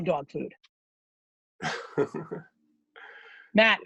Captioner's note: laughing